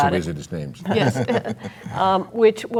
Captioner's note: laughing